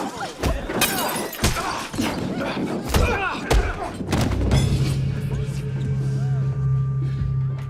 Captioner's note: glass shatters; grunts; ominous music